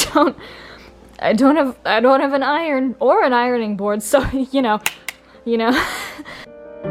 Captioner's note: snap snap